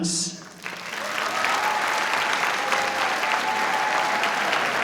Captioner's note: audience applauding